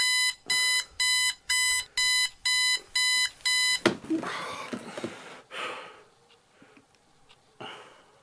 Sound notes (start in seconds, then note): 4.1 Gary sighs